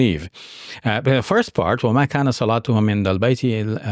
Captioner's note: speaking Arabic